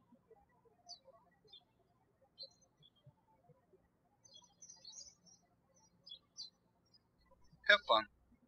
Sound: birds chirping

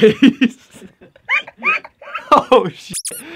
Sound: laughter; donkey laugh

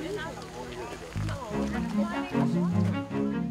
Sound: people chatter

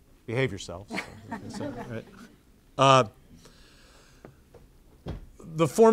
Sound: audience laughing

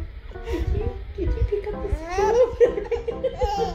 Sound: giggles; laughs; giggles; laughs

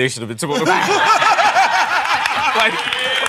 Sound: laughter

